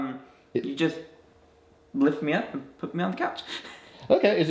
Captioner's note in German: lacht